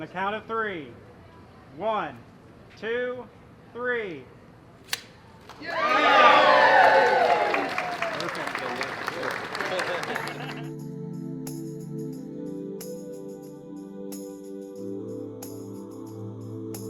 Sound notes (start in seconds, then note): 5.5 applause